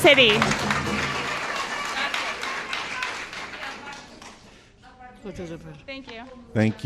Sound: applause

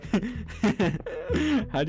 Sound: laughing

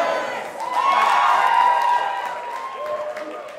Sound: cheers

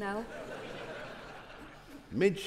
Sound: audience laughing

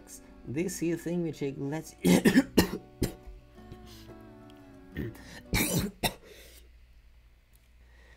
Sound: cough cough; couugghh

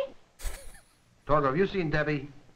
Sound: chuckles

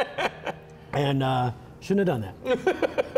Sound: laughs; laughs

